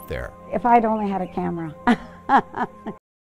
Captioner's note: laughs